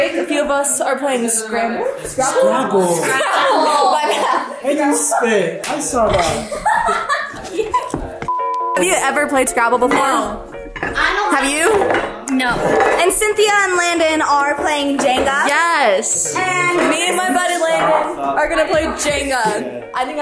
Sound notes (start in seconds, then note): 2.2 group laughs; 8.2 beep